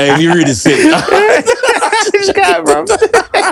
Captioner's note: laughter